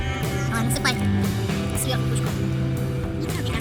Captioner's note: speak in a funny voice; they say in a funny voice